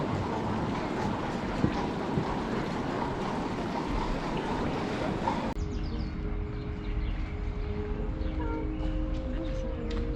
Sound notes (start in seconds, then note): 0.3 city sounds; 5.0 garden sounds